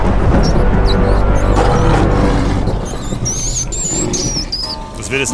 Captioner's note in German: Donnern, Quieken, Löwengebrüll